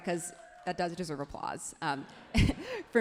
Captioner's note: everyone laughs happily